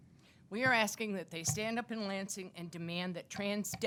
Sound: none

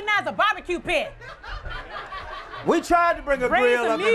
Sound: laughter

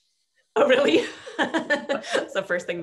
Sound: laughs

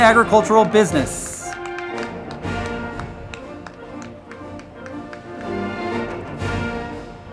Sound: crowd clapping; band music

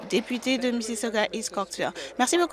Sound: applause

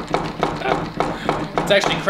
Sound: laughing

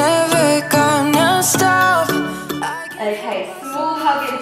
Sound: timer beeping

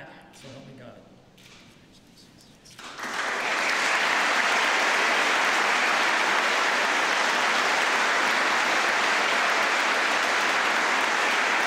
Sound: applause

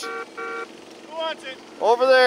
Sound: car horn blowing

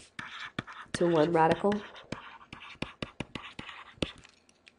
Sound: scribbling

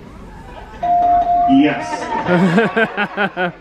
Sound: bell pings; guests chuckling; chuckles

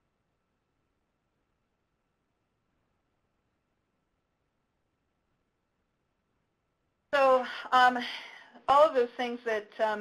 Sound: pause

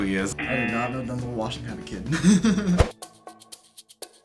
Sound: laughs

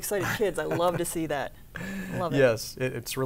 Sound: laughs

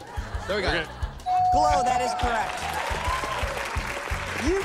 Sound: bell dings

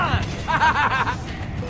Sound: guard laughs

